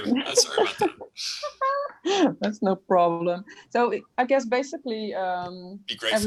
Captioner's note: laughs